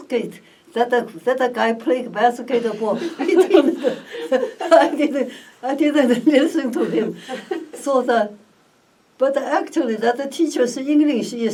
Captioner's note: laughs